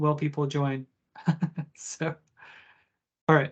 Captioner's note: chuckles